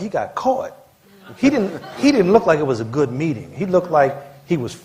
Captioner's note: laughter